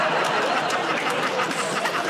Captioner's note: laughter